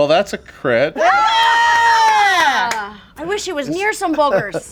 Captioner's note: group cheers